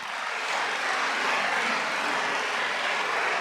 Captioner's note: applause